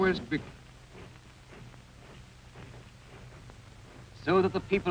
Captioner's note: feet marching